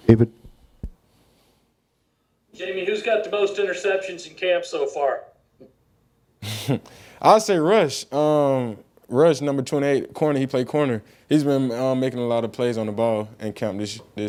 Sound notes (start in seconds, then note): 6.4 laughing